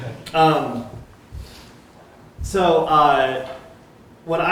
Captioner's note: laughter